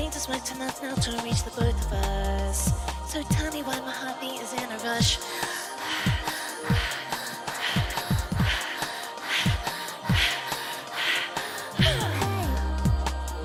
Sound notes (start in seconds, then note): 5.1 gasping